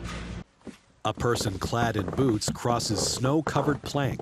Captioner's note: footsteps in snow